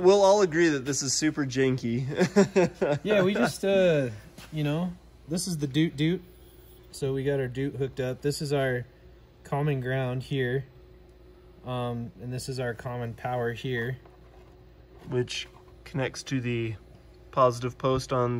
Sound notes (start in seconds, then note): 2.0 chuckles